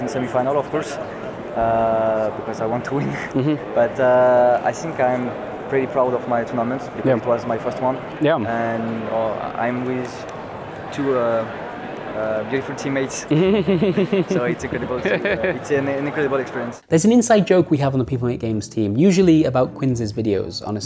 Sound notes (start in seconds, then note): 13.3 chuckles